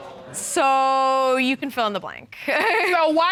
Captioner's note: chuckles